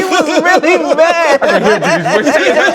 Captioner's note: laughter